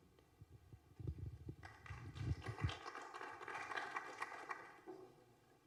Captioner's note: applause